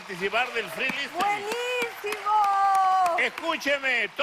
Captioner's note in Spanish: Aplausos